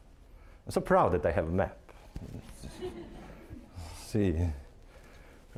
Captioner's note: audience laughing